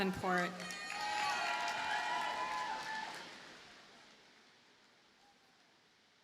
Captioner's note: audience cheers and applauds